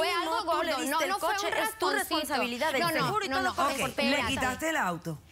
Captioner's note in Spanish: Hablan al unísono